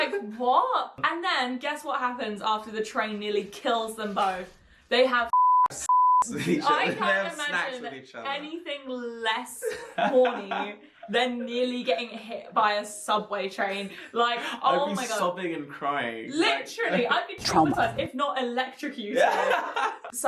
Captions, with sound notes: - Like, what? And then guess what happens after the train nearly kills them both? They have (beep). - (beep) with each other. They have snacks with each other. - I can't imagine anything less horny than nearly getting hit by a subway train. Like, oh my God. - I'd be sobbing and crying. - Literally. I'd be traumatized, if not electrocuted.